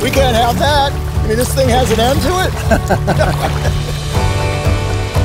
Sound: laughing

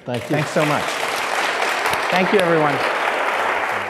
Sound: audience applause

